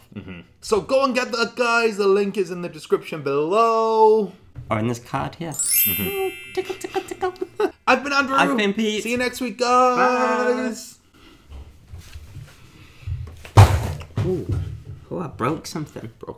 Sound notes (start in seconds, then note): 5.5 chimes; 7.5 laughing